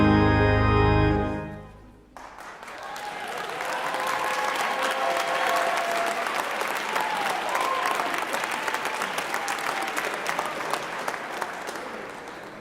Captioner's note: applause